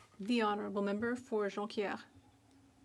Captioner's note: speaking French